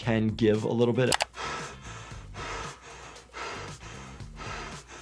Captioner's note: IShowSpeed panting